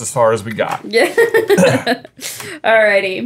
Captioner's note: laughing